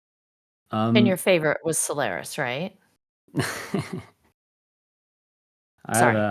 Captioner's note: laughs